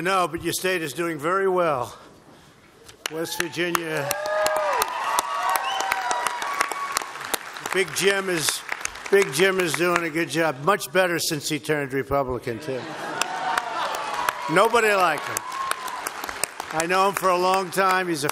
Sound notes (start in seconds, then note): 5.1 applause; 12.6 laughter and applause